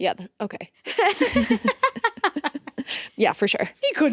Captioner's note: both laughing